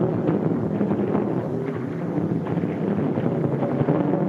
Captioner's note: none